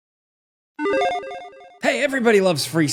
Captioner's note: logo beeps